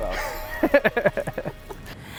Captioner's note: laughs